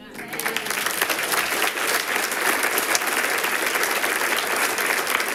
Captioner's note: people clapping